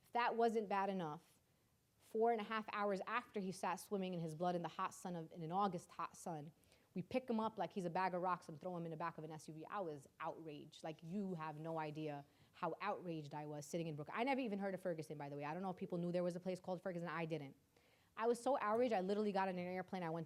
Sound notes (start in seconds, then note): none